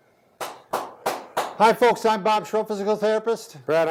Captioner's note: claps